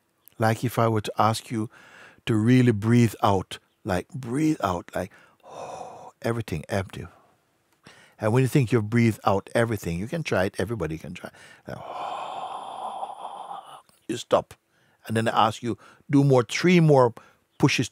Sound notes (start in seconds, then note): 4.8 langes Ausatmen; 11.3 atmet aus